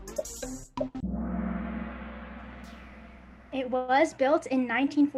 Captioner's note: gong